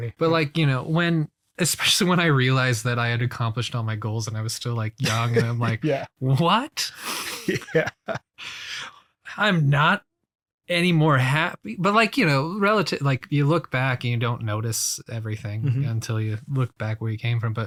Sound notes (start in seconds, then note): 7.0 laughs